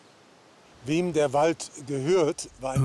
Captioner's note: speaking German